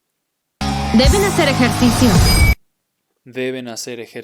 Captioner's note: speaking in Spanish